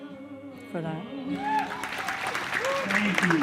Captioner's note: cheering and applause